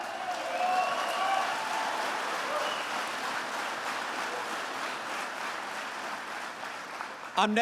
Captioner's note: applause